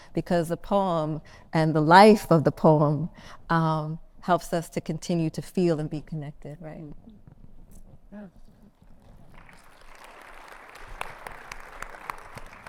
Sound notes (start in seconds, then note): 9.1 audience clapping